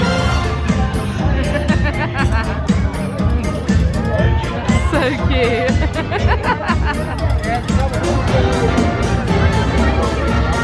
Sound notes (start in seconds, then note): 1.5 laughing; 7.9 upbeat music